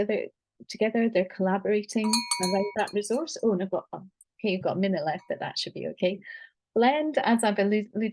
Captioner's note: bell rings